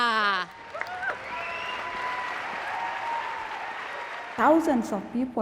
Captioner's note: audience applauds and cheers